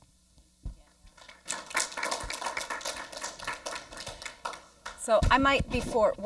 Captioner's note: audience applauds